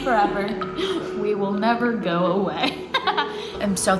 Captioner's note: laughing